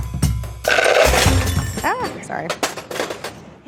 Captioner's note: upbeat percussion music; piping tips clattering; metal clatters